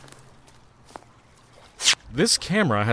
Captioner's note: footsteps